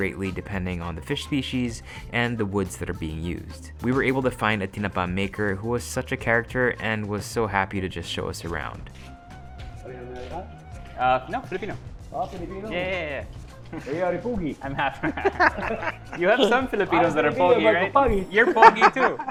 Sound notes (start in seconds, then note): 14.5 laughs